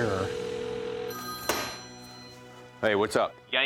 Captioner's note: phone ringing